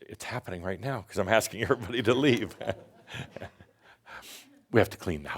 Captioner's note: Adamus chuckles